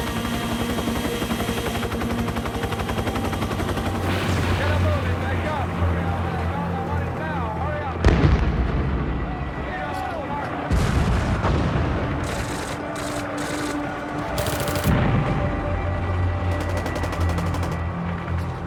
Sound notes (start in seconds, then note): 10.7 explosions; 16.6 gunfire